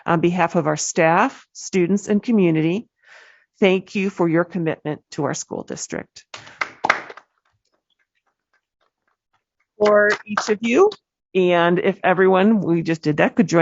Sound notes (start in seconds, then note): 6.3 applause